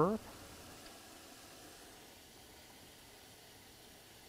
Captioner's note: water flowing